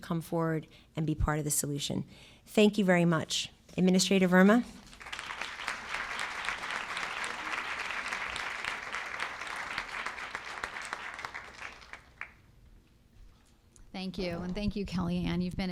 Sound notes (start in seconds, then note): 4.8 applause